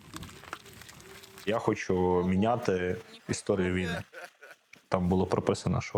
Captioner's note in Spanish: risas